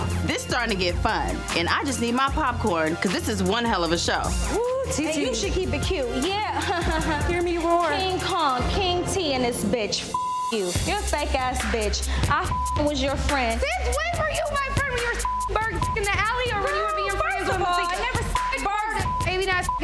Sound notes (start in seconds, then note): 10.1 beep; 14.9 beep; 18.3 beep